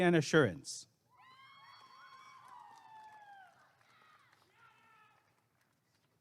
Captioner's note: applause and cheering